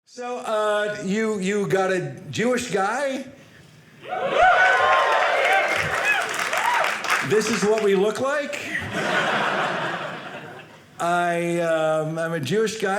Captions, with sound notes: So you got a Jewish guy. (audience cheering) This is what we look like. (audience laughing) I am a Jewish guy.